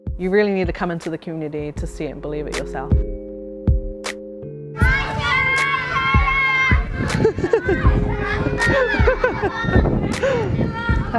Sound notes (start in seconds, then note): 3.5 soft bass music; 7.3 laughing